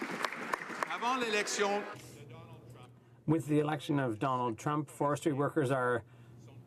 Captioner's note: some Applause